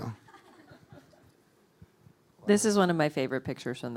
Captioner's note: audience laughing